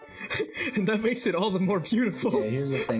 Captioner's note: chuckles; chuckling